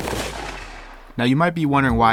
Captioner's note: gunshot